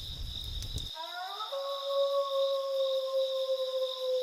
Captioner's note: wolf howling